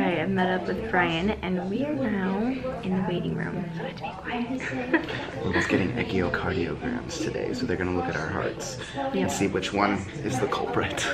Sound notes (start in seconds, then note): 4.5 laughs